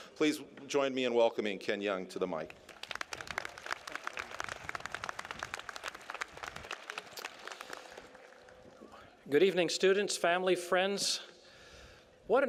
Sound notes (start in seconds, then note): 2.5 applause